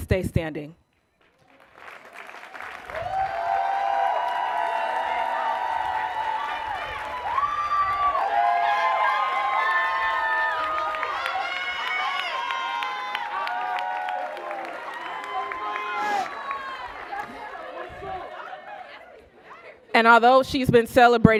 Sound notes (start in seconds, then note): 4.8 cheers and applause